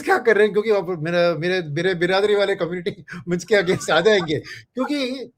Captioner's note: laughs